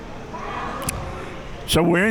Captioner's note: whistle blowing; spectators chattering